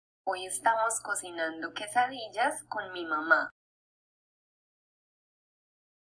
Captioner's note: speaking in foreign language